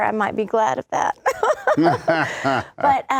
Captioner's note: laughter